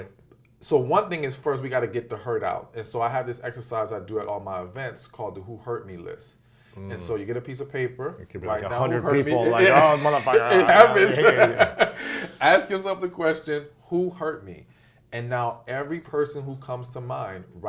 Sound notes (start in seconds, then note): 11.1 laughs